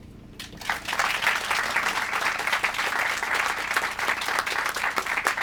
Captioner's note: applause